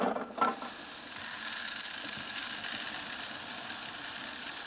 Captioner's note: corn rattling